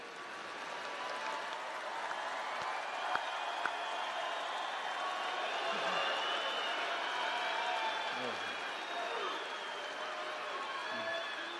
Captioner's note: cheering and applause